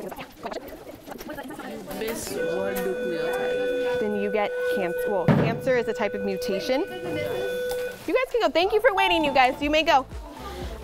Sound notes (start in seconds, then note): 2.3 passing bell rings; 9.3 ding